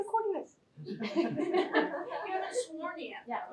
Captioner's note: laughter